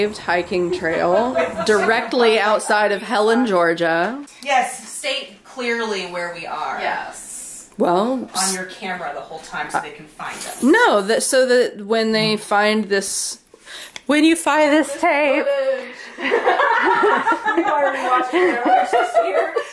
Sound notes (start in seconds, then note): 16.2 all laughing